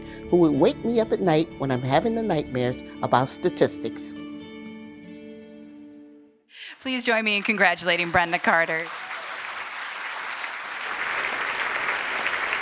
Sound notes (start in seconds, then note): 6.7 applause